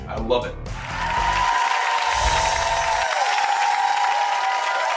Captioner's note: cheering and applause